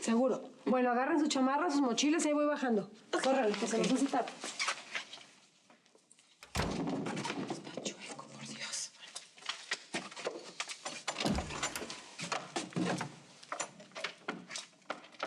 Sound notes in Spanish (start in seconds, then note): 8.0 susurra